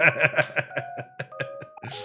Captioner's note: laughing